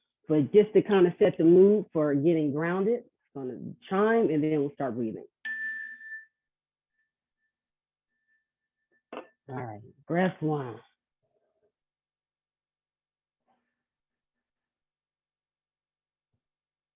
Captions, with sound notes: But just to kind of set the mood for getting grounded, it's going to chime. And then we'll start breathing. [CHIME RINGS] All right, breath one.